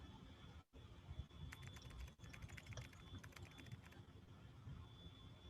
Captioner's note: keys clicking